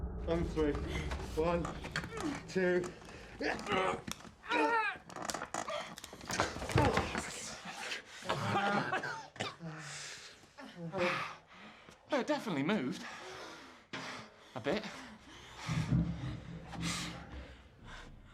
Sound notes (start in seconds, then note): 8.2 coughing